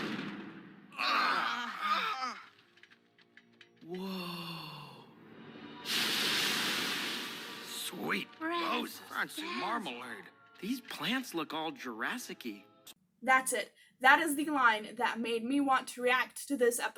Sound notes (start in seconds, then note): 0.9 all groaning